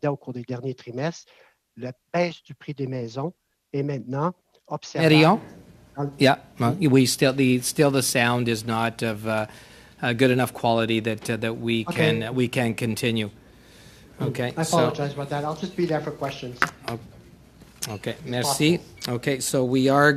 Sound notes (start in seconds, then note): 6.5 speaking french